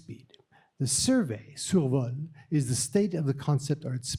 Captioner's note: french